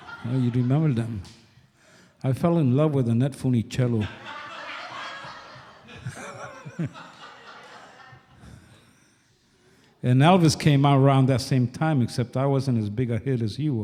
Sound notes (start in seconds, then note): 0.0 laughter from audience; 4.0 laughs; 7.0 laughter from audience